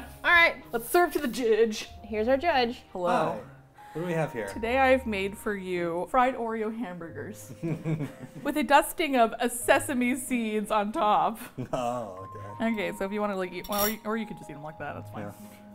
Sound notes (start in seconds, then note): 7.4 laughing